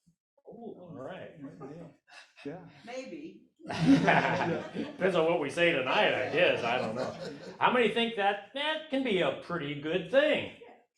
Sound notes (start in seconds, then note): 3.6 laughs; 3.7 audience laughs